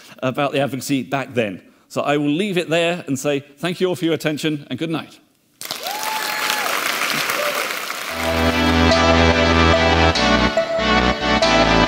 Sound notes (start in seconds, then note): 5.6 audience cheering and clapping; 8.1 energetic music